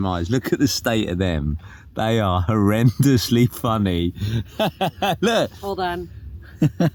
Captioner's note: laughs